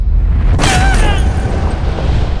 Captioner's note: guard yelps painfully